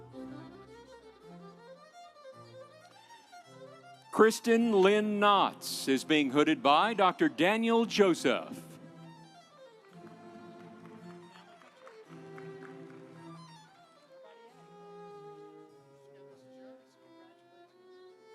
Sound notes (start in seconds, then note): 9.8 audience applauding; 10.1 instrumental music